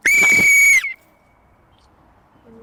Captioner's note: whistle Blowing